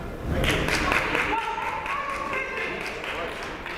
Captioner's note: clapping